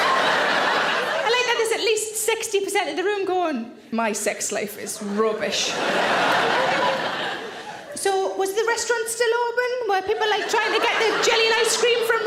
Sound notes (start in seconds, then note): 0.0 audience laughing; 5.4 audience laughing